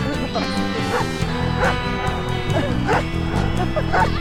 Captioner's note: dog barking